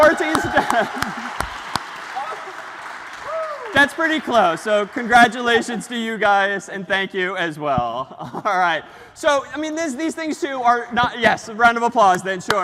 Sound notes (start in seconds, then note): 0.1 ปรบมือ